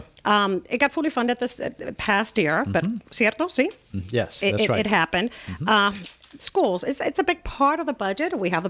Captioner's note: Hablando ingl\s